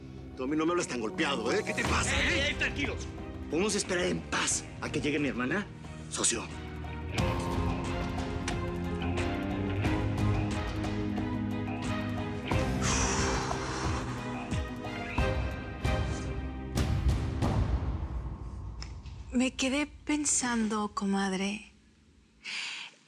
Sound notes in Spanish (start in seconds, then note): 12.6 exhala